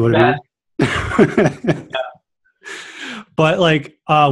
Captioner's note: laughing